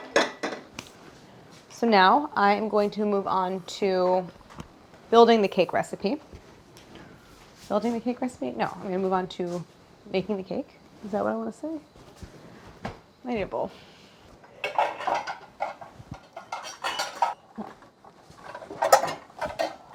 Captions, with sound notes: So now I am going to move on to building the cake recipe. Building the cake recipe? No, I'm going to move on to baking the cake. Is that what I want to say? I need a bowl. (bowls clanging)